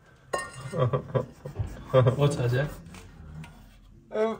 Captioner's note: laughs